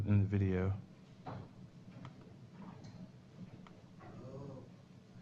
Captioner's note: pause